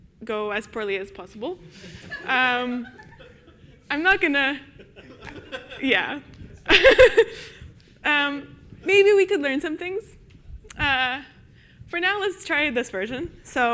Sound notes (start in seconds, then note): 1.7 audience laughs; 4.6 laughs